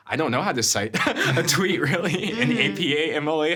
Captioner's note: chuckling